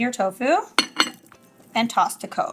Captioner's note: dish clanking